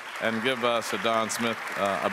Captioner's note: audience applauds